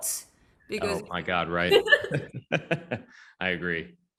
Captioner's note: woman laughs